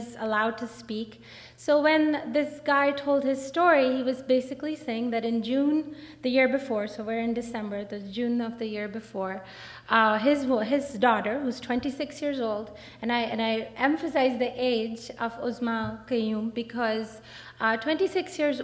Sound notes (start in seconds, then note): none